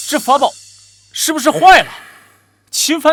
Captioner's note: gasp